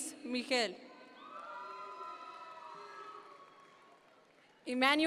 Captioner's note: audience members cheer